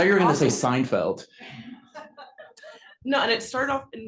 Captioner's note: laugh